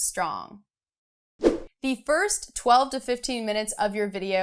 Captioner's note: air whooshing